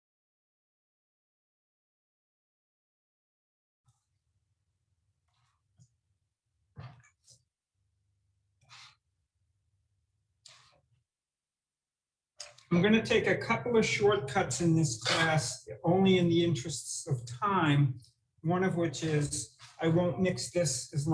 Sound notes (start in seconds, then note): 8.6 dough scraping